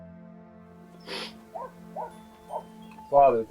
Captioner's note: gentle music; dogs barking